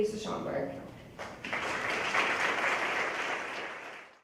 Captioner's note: applause